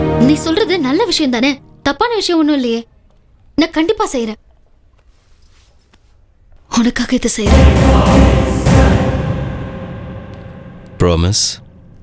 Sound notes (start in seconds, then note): none